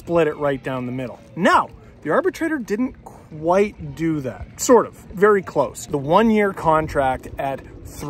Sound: wind noises

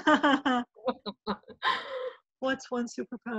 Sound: laughing

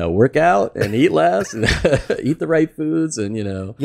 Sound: laughs

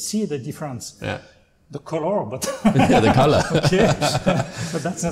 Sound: laughter

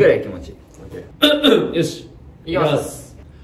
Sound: clears throat

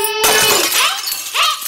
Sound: shatters

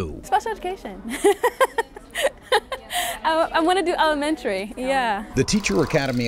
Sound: laughs

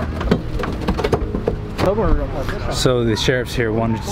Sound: metal creaks

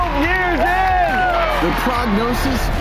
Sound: cheering

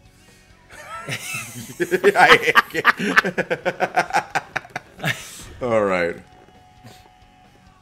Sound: laugh

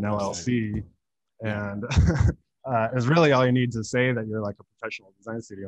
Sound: laughs

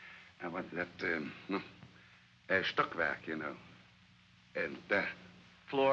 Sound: fumbling for words

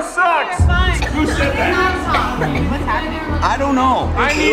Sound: contestants talking

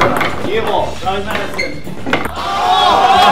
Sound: ping pong ball bouncing of the table

